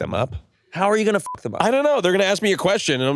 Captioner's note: beep